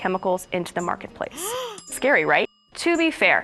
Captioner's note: gasp